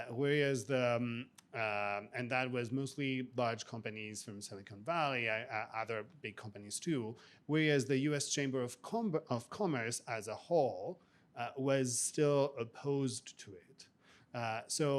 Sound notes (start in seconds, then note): none